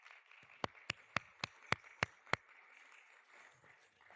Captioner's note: audience clapping